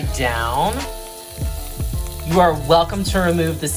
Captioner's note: pan sizzling